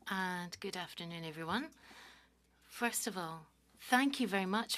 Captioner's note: speaking French